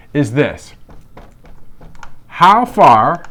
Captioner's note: pen writing on board